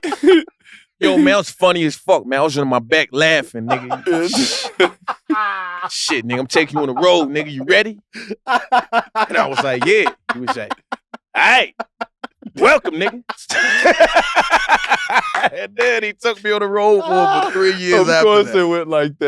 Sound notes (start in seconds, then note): 14.1 group laughs